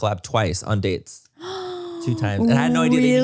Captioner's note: gasps